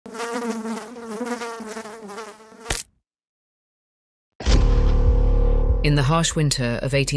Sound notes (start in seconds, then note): 0.0 fly buzzing; 2.6 fly splatting; 4.4 dark, dramatic music